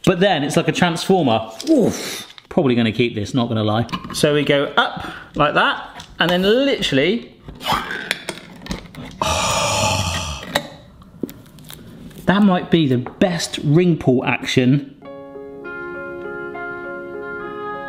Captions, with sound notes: But then it's like the transformer. Probably gonna keep this not gonna lie. So we go up like that and then literally (can opens) (satisfying gasp) That might be the best ring pull action (gentle music)